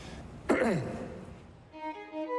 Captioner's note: coughs